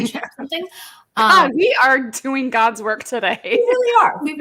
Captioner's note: laughs